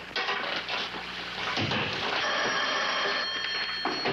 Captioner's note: phone ringing